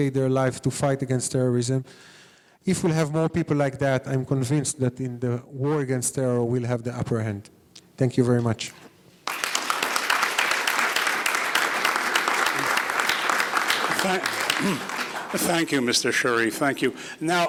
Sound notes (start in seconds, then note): 9.2 audience applauding